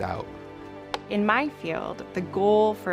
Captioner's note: film slate claps